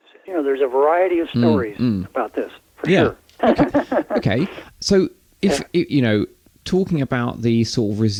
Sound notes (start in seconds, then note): 3.4 laughter